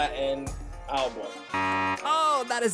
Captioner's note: beep